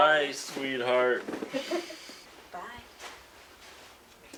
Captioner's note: laughing